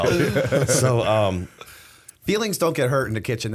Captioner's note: laughter